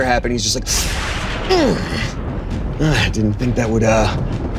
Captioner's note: grunts loudly